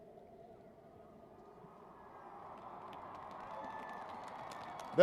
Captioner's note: cheering